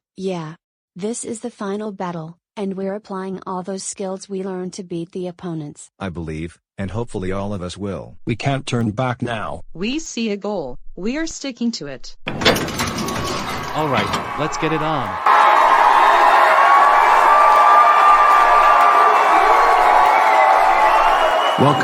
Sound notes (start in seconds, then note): 12.3 doors open, audience cheering; 15.3 audience cheering